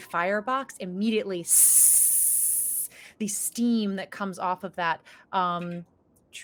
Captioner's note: hissing